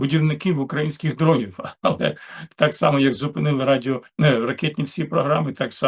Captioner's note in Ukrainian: прочищення горла